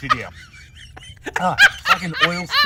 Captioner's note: laughs hysterically